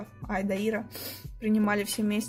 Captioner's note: sniff